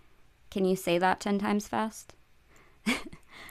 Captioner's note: laughter